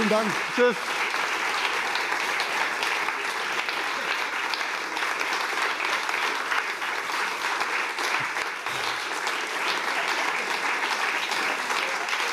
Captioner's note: applause